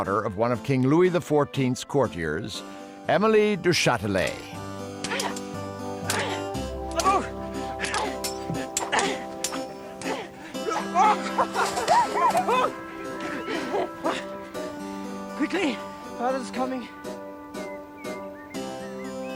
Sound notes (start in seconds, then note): 5.0 <i> both grunting</i>; 11.3 <i> giggling</i>; 11.3 <i> groaning</i>